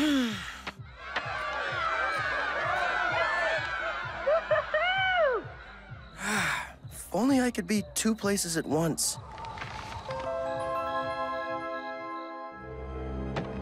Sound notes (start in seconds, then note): 0.0 sighs; 9.8 wind whistles